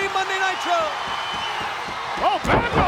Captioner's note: audience cheers